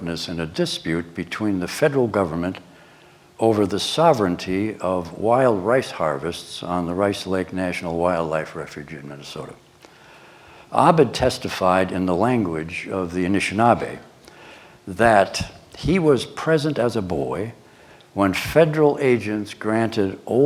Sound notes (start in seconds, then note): none